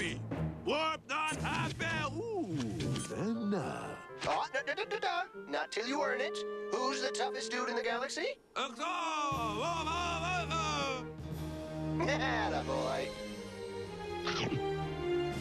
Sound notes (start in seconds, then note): 9.3 mimicking announcer; 14.2 laughs